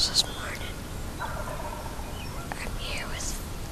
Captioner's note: turkey gobbling